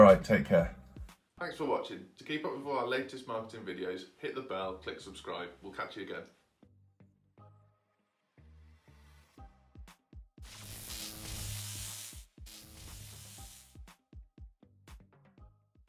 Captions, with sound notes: All right, take care. Thanks for watching. To keep up with all our latest marketing videos, hit the bell, click subscribe, we'll catch you again. (upbeat music) (electricity buzzing)